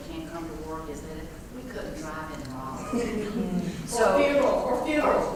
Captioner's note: laugh